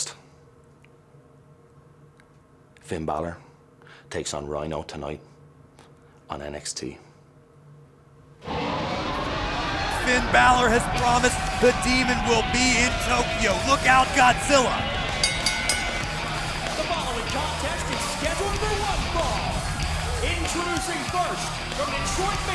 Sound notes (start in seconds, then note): 15.0 bell ringing